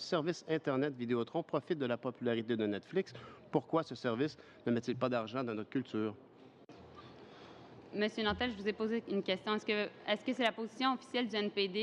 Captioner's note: speaking french